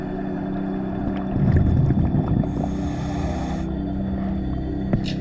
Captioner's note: underwater sounds continue